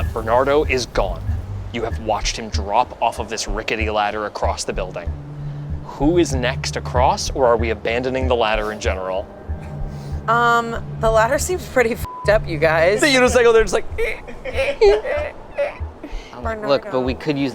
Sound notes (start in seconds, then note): 12.3 beeps; 14.4 squeaking